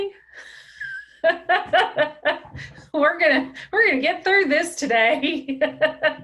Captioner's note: laughs